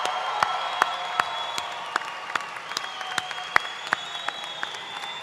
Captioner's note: cheers and applause